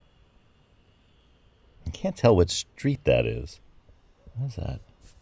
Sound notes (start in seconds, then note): 1.8 indistinct street noises in background